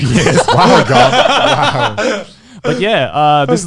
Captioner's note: all chuckling